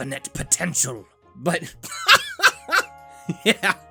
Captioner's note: laughs